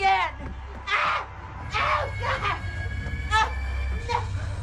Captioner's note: shrieks; Aja gasping and groaning